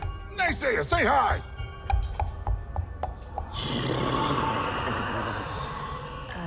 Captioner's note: clops in a polite gallop, nickers in unsettling greeting